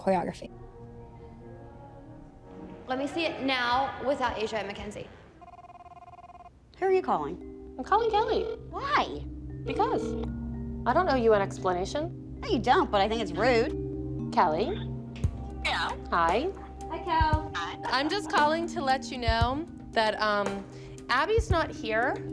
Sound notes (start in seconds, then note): 5.4 telephone ringing; 8.1 telephone ringing; 14.6 on phone; 17.1 on phone